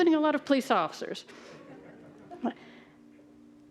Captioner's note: audience chuckling